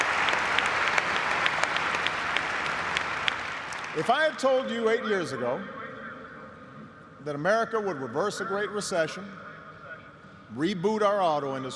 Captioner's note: cheers and applause